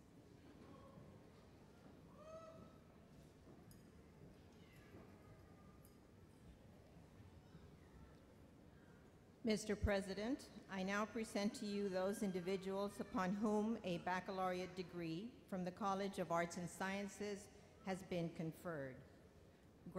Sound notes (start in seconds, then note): 9.5 voiceover